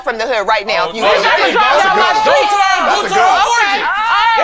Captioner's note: group chatting